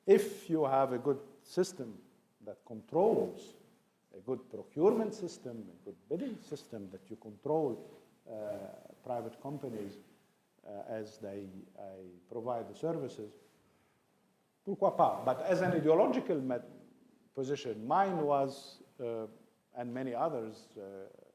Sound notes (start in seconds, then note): 13.2 speaks in foreign language